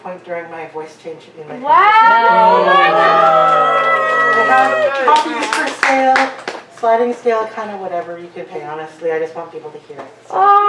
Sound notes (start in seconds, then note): 1.9 audience cheers and applause